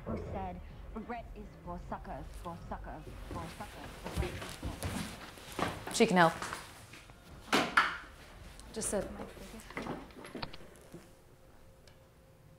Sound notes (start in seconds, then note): 0.3 knock on door; 8.7 computer spacebar "click"